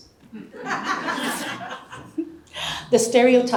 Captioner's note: audience laughs